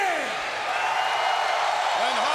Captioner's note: crowd cheering